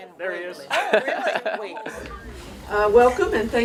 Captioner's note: laughing